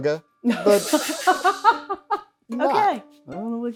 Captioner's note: both laughing